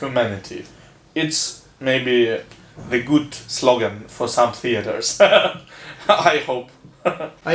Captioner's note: laughs